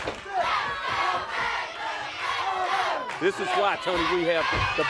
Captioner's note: crowd cheering